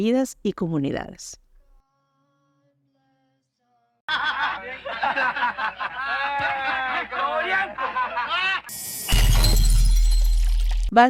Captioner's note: laughs